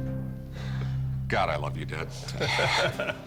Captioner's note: laughter